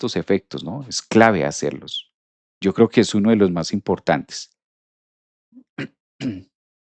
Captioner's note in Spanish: carraspeo